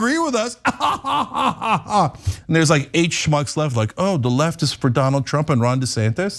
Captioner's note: laugh